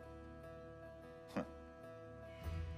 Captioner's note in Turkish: Gülme sesi